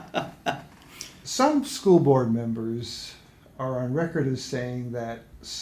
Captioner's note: laughs